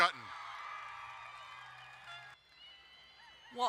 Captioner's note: crowd cheering and applauding